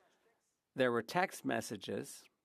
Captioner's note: speaking French